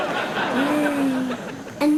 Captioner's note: boy chuckles; groans unenthused